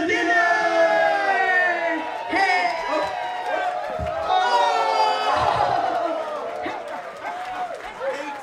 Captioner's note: cheering